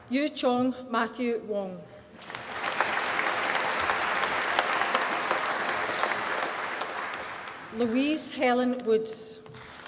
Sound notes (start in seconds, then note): 2.1 applause